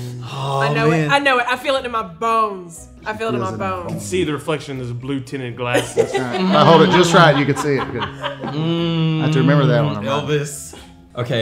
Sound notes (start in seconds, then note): 5.7 laughing